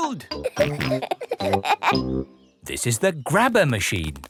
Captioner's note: peppa and george laughing